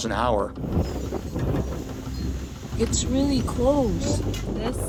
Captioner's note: wind gusting